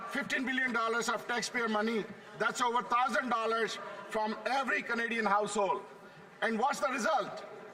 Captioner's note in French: voix de l'interprète